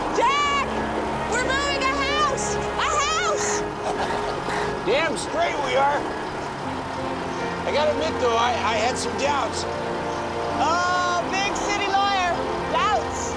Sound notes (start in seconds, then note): 5.1 laughs